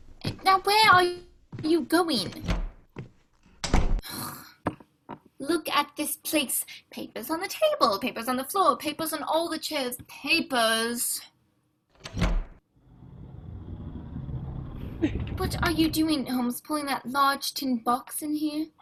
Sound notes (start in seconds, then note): 3.6 door opens and slams; 11.9 door opens; 13.0 trunk dragging